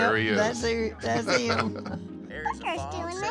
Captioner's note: laughs